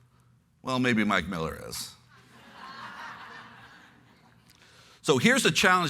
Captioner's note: laughter